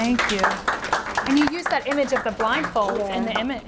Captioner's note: audience applauds